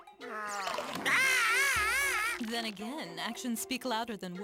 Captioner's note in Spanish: gritando